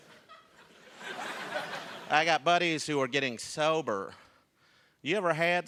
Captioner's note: laughter